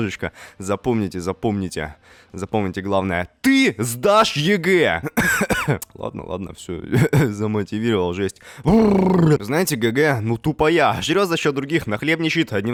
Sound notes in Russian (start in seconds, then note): 5.0 кхи-кхи